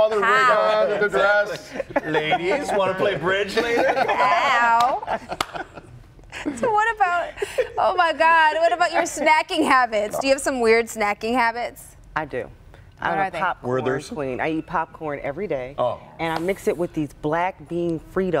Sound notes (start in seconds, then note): 3.5 laughter